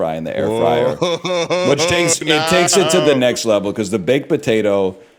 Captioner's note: laughs